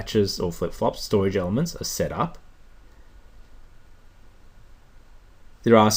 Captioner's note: pause